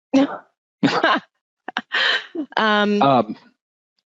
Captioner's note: laughing